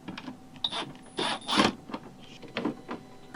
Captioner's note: drilling